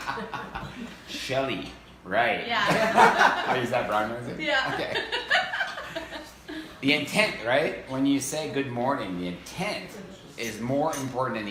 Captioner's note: laughs